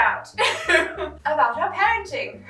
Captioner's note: laughing